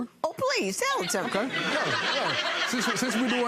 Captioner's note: crowd laughing